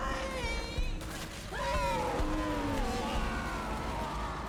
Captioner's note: screaming